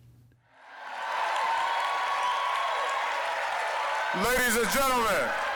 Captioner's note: applause, cheering